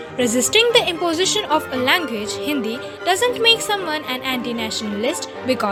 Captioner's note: Hindi